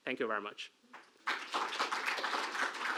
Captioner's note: applause